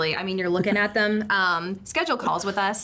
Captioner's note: chuckles